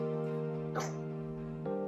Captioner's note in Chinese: 打嗝